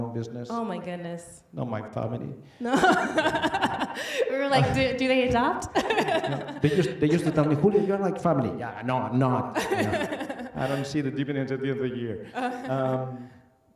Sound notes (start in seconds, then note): 5.4 laughs; 9.5 laughing